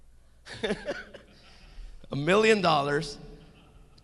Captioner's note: laughing